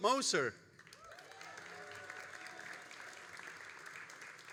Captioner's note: all applauding